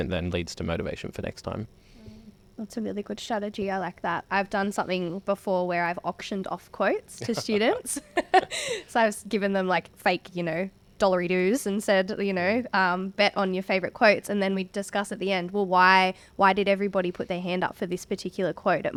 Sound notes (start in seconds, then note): 7.2 laugh